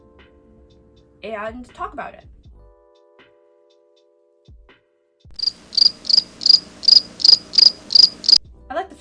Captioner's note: crickets chirping